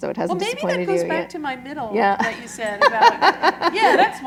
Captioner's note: laughter